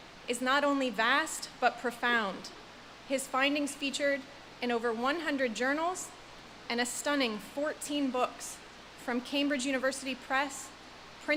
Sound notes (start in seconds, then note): none